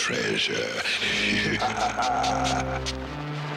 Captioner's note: evil laughter